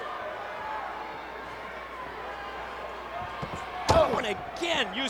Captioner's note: audience yelling